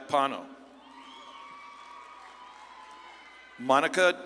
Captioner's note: audience claps and cheers